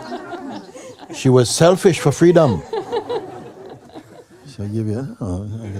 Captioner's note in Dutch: gelach